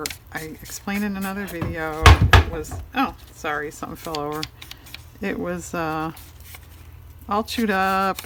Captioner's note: banging sound